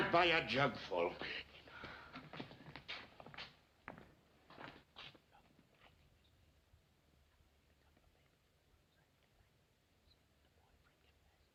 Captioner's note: all whispering